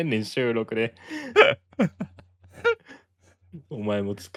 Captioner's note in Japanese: 笑い